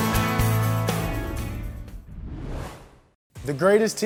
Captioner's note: whoosh